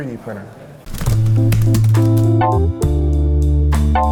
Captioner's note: typing sounds